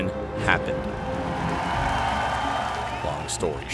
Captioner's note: crowd cheering